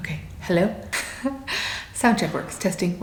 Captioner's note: laughs